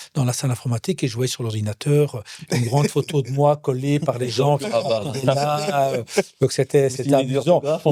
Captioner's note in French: rires